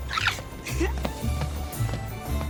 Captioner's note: peyton giggling